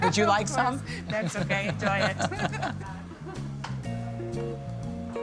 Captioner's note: laughter